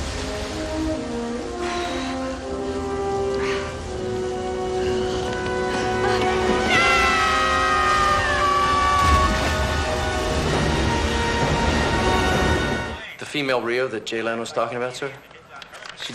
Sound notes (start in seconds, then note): 1.4 soldier sighs; 6.6 soldier screams; 6.7 dramatic music